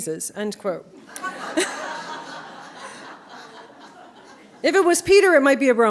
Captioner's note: laughter